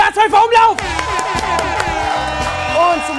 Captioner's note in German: Jubel, Applaus